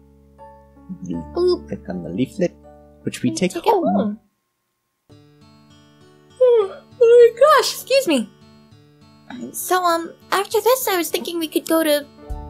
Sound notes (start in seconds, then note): 6.4 yawns